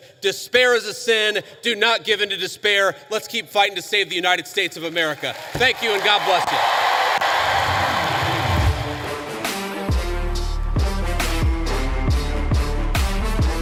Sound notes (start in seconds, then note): 7.2 cheers and applause; 10.5 rock music playing